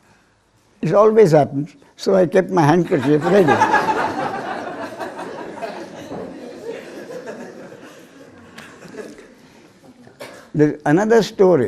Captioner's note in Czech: smích